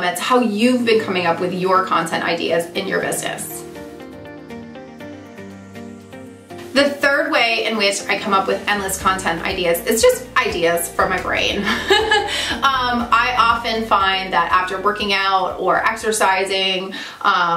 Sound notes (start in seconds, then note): 11.6 laughs